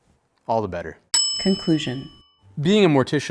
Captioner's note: bell dinging